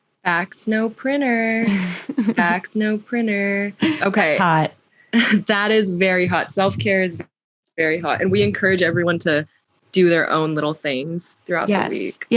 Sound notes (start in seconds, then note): 5.0 laughs